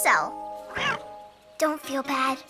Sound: cat meows

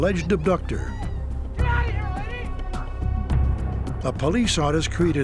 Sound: shouting

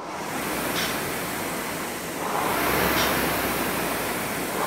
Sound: machine whirring

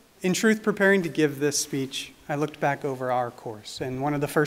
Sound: none

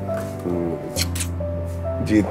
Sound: smooch

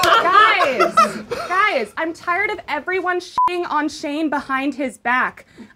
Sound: beeping

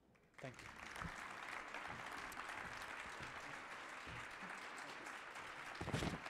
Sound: audience applauding

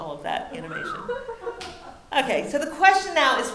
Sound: audience laughing

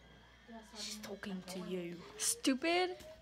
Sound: British accent

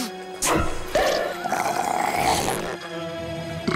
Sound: slurping

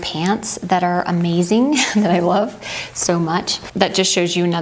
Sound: laughs

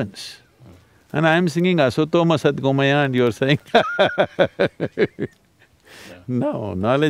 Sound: laughs

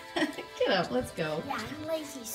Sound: laughing

